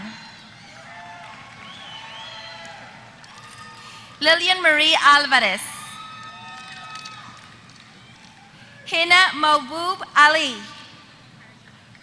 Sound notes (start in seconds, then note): 1.0 applause; 5.7 applause